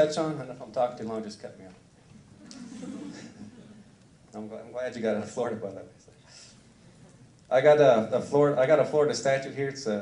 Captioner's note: laughter